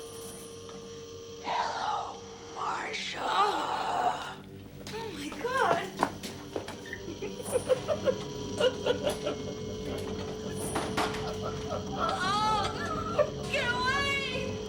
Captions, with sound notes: [ Whispering ] HELLO, MARCIA. OH, MY GOD. [ Chuckling ] OH, GET AWAY !